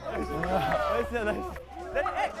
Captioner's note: sprinting